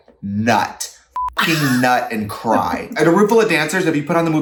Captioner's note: beep